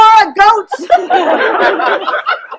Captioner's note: laughter